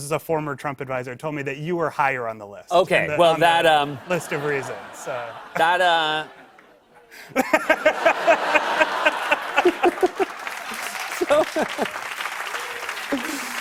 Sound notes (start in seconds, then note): 7.2 laughter; 9.1 laughter and applause; 11.6 laughter and applause continue